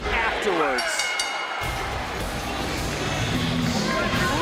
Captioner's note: bell rings